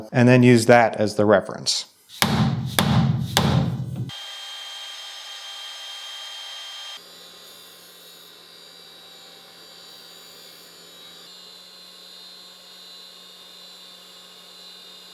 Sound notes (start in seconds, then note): 2.2 mallet thudding; 4.3 machinery whirring